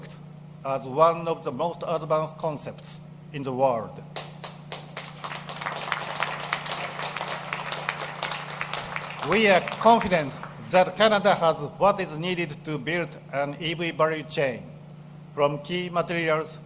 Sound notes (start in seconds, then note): 7.9 applause